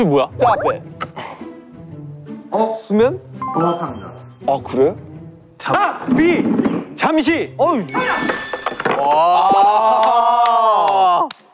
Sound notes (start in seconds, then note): 7.9 ding dong